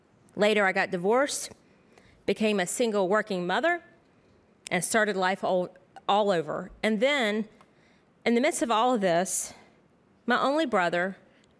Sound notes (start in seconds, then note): none